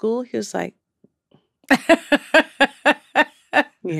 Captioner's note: laughter